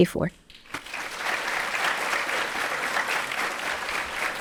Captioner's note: audience applauding